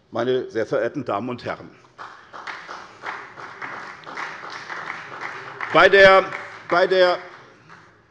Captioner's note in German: Beifall bei der SPD